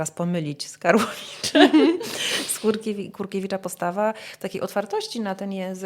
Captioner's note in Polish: śmiech